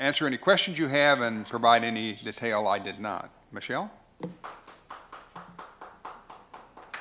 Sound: applause

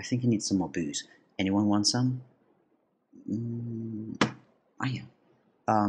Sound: hits elbow on table

